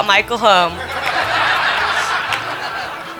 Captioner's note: laughing